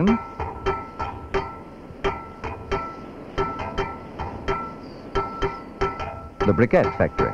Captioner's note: sound of tools